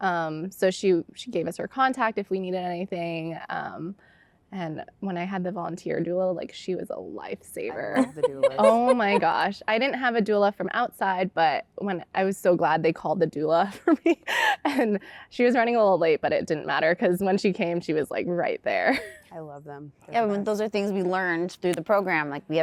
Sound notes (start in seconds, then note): 7.8 laughter